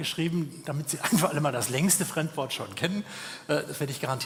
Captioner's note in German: gelächter